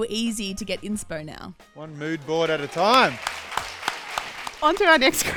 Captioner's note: audience clapping